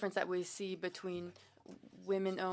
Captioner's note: speaking French